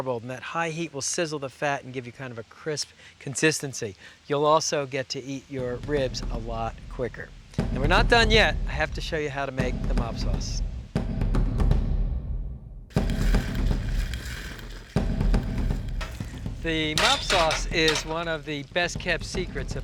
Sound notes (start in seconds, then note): 11.4 thumping drums; 12.9 sizzling